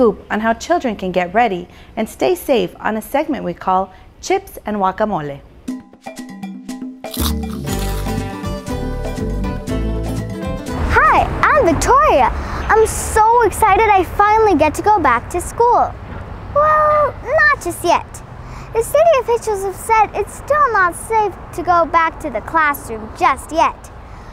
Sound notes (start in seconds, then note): 5.8 upbeat music; 7.0 chips crunching